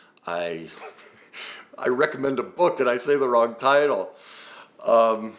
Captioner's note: laughs